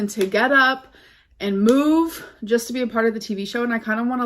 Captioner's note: claps hands